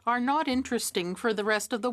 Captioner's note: speaking French